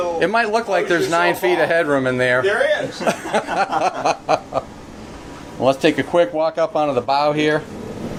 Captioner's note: men laugh